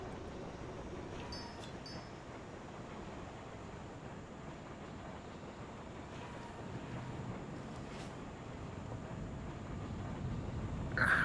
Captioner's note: wind howling